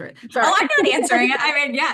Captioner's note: haha